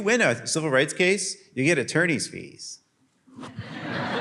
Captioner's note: laughter